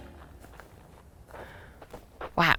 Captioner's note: footsteps crunching